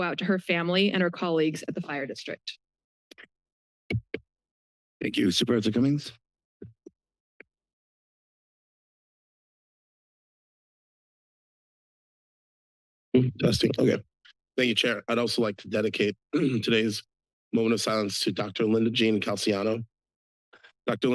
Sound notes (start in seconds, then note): 8.8 silence